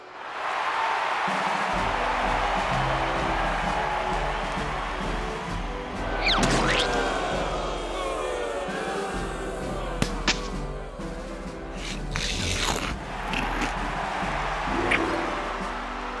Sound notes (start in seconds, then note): 0.2 cheering; 6.2 crowd booing; 11.8 crunching